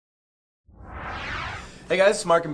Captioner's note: air whooshing